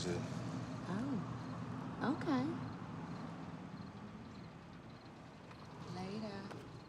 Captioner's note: insects chirping